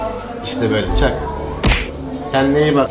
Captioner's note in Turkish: çak!